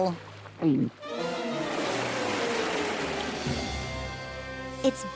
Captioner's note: water rushing